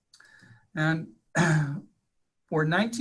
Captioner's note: clearing throat